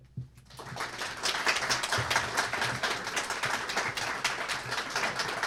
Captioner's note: applause